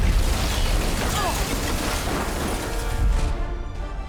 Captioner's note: boom